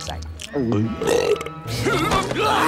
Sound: belching

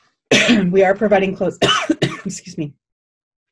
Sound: coughing

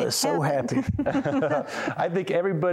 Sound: laughter

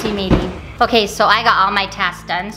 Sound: tone sounds

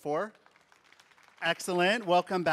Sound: audience applauding

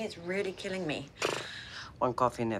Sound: blows raspberry

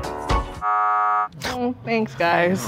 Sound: upbeat music; buzzer sounds

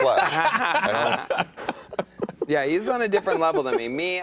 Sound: laughter

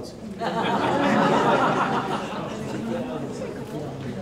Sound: audience laughs

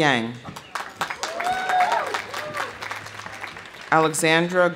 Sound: audience applauding; audience cheering

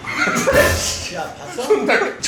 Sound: laughs

